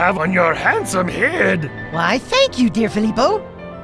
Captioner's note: laughs